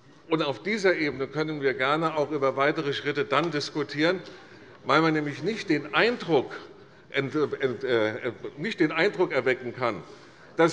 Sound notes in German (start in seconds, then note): none